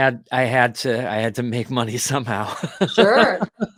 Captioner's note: laughs